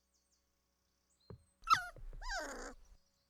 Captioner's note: whimpering